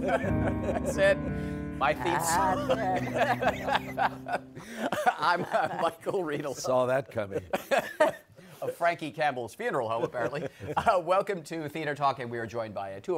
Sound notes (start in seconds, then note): 2.0 laughter